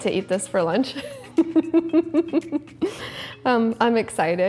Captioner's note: laughs